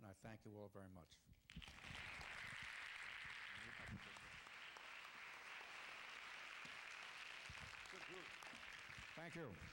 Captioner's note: applause